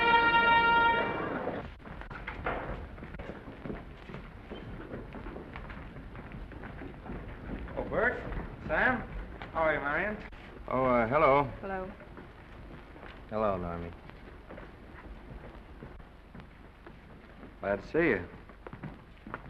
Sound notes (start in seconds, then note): 0.0 bugle derby call; 1.0 footsteps scrambling